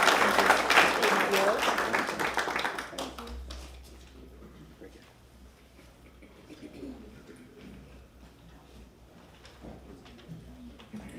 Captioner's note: applause